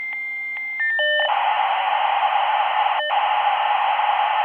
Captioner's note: dial up modem crackling